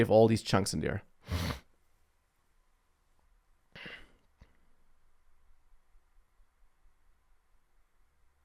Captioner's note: sniffs